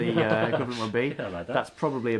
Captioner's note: laughs